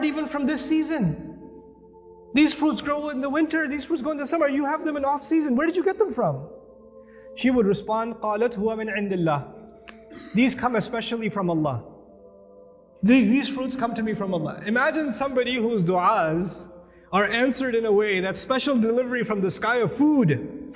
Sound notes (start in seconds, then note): 8.2 Arabic